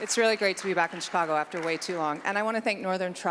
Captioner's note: applause